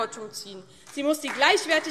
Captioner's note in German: Beifall DIE LINKE und vereinzelt SPD